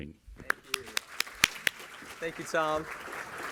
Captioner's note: all applauding